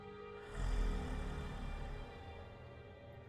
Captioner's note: distant growl